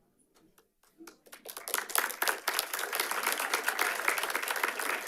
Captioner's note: audience applauding